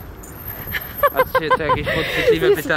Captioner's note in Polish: śmiech